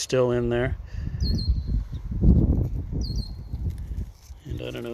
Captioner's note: bird chirps